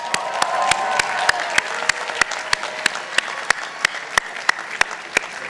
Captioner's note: participants applauding